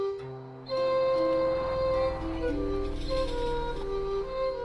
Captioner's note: cars passing